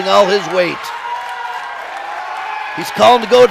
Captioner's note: audience cheers